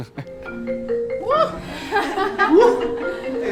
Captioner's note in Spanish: risas; sonido de celular